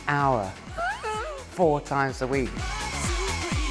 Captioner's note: laughs